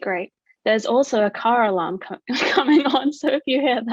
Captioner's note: laughs